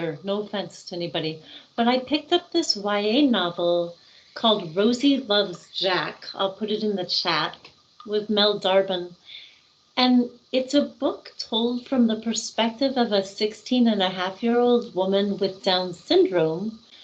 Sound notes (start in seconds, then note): none